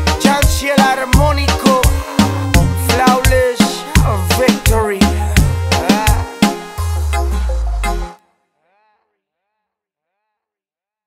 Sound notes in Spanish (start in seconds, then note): 8.2 silencio